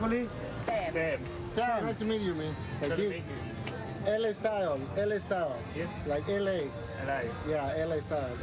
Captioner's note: handshake